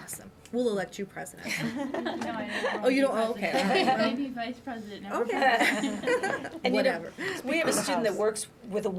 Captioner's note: laughter